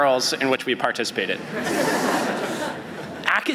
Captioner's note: laughter